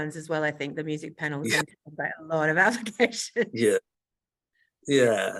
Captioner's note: laughs